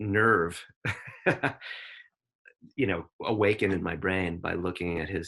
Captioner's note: chuckles